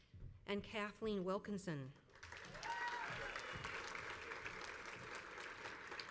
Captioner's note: crowd applauds